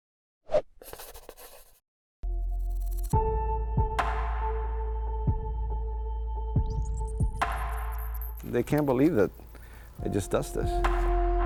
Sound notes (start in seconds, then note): 0.6 pencil scratching; 0.8 pages turning; 3.1 calm techno music